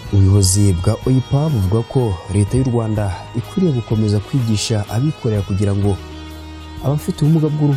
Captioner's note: speaking in Kinyarwanda